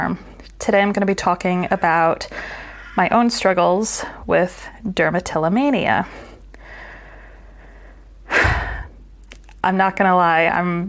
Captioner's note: sigh